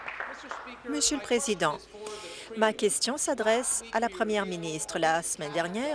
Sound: applause

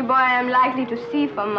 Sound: children chattering

